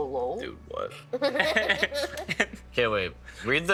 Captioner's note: others laughing